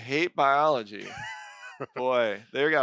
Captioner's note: chuckles